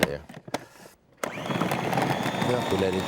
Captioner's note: blender whirring